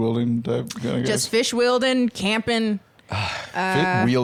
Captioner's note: groans